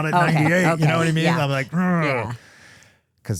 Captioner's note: groans